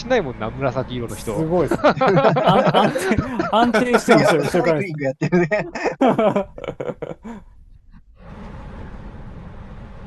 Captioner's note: laughs